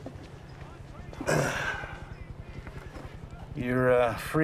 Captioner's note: sighs